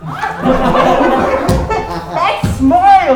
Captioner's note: all laughing